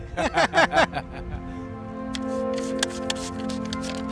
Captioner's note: laughing; tranquil music